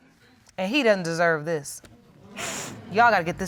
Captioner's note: sniffles